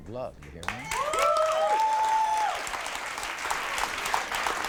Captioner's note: audience cheers